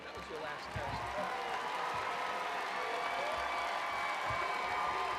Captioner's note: attendees cheering